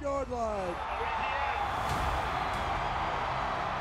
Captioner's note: cheering